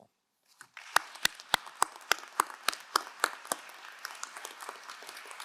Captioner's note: crowd applauding